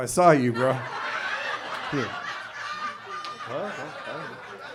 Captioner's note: audience laughs